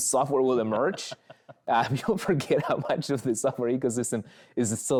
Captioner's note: chuckles